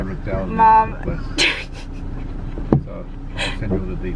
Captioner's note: laughing